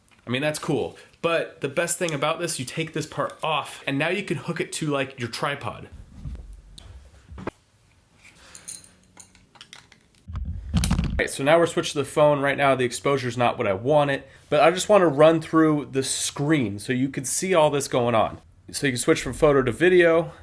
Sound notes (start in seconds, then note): 7.1 speaker static